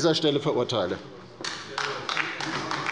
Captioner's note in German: Beifall bei der LINKEN